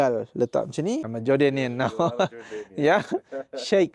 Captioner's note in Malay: ketawa